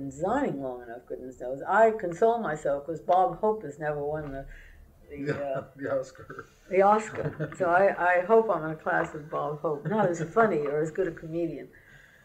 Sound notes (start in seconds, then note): 6.9 laughs